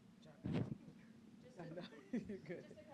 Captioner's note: chatter